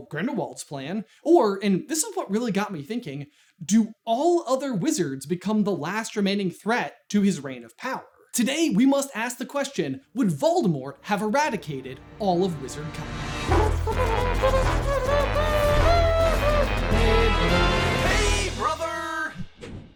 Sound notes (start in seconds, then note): 13.3 intro Theme Music; 13.3 with brr nrr nrr nrr'ing in the background